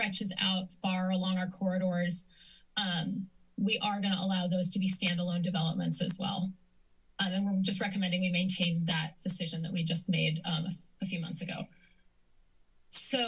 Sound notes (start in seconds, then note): 6.5 silence; 11.6 silence